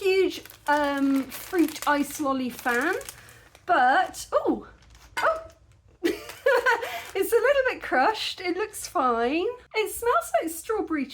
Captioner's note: laughing